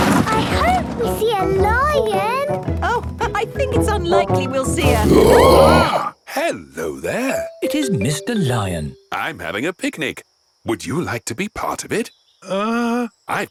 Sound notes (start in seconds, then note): 4.8 roaring, screaming